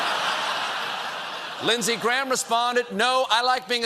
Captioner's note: laughter